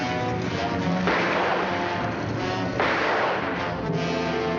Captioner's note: gunshots